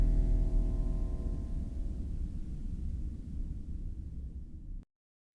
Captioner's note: droning fades off